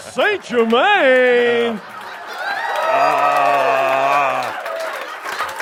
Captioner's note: audience applause and approval